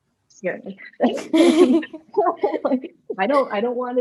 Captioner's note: laughter